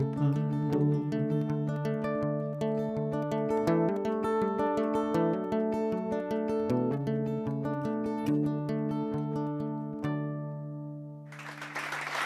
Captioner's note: applause